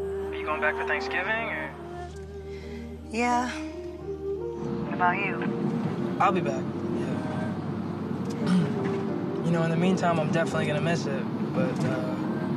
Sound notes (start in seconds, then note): 8.4 clears throat